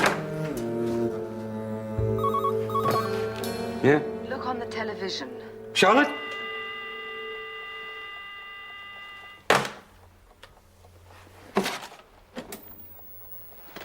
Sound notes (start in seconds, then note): 2.1 Звънене на телефона; 6.0 line dead tone